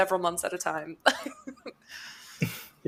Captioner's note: laughs